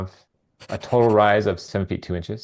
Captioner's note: pencil scribbling